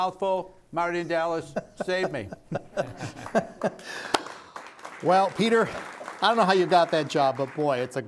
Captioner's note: audience applauding